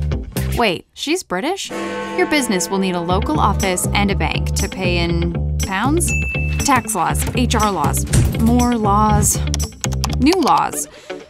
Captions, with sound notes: Wait, she's British? [bell ringing] Your business will need a local office and a bank to pay in... Pounds? [ding] Tax laws. HR laws, more laws, new laws.